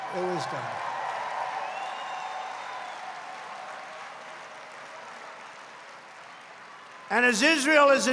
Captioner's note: applause